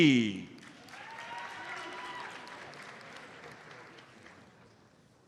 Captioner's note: audience applauds